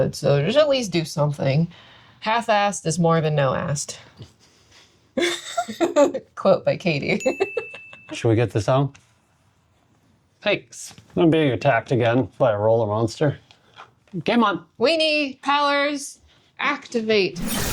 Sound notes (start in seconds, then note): 5.2 laughing; 7.2 bell dinging